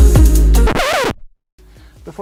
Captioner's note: record scratch